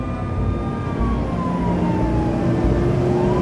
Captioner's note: sirens blare